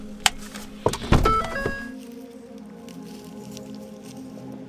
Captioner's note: door dings